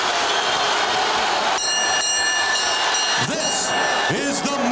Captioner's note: bell ringing